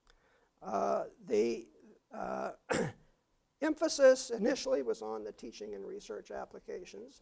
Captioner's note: cough